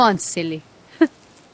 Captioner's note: laughter